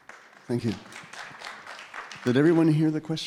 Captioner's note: audience applauding